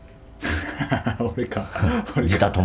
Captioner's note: laughs